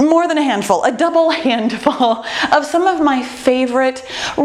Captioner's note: chuckles